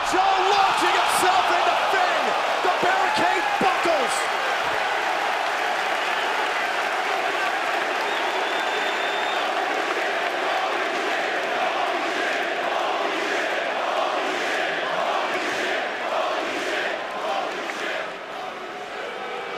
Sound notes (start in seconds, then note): 7.3 cheers and applause; 8.9 fans chanting